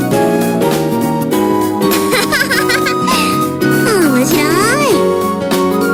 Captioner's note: laughs